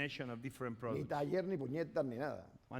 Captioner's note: speaking spanish